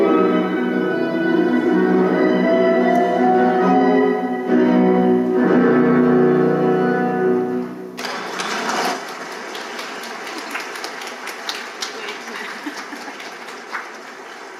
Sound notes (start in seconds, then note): 8.0 audience clapping